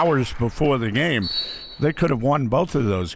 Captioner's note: referee blows whistle